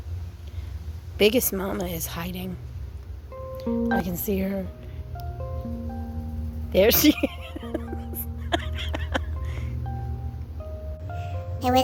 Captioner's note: laughs